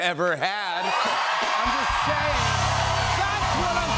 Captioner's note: cheers and applause